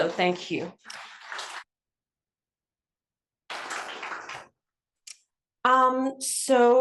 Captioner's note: applause